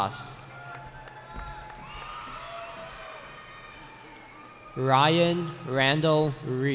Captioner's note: cheering